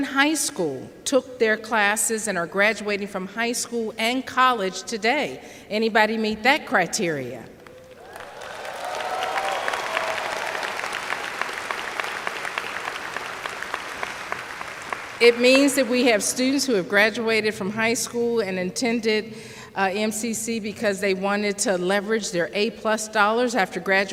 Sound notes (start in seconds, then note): 7.6 cheers/applause